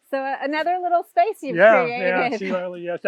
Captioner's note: laughs